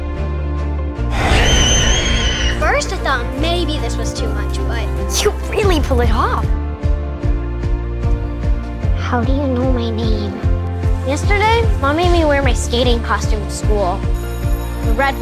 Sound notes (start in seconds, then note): 1.2 Juliet screams